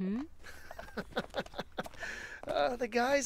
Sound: giddy laugh

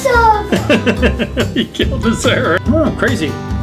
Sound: laughing

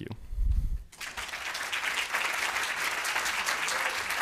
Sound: applause

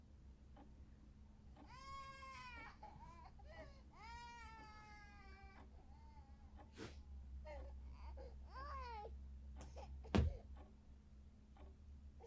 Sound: baby crying

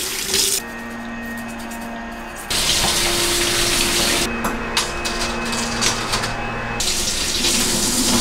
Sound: sound of disinfection outside

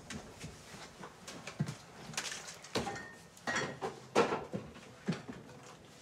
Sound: rummaging in fridge

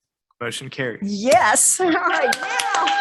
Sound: tunderous applause

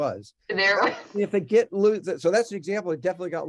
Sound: laughing

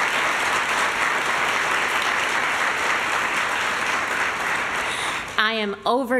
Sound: applause

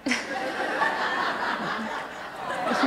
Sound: audience laughter

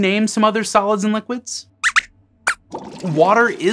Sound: squeaks squeaks

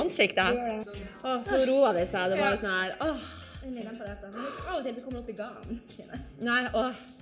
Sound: sighs

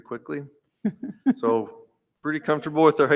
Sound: laughing

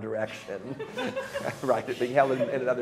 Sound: laughter

